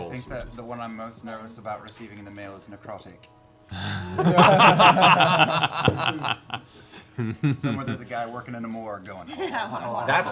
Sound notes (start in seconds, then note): 3.8 laughter